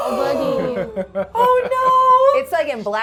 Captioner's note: laughing